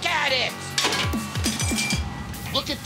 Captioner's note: spatula clatters